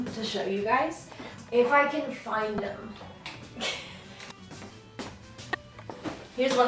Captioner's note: chuckle